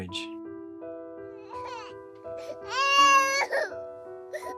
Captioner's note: baby crying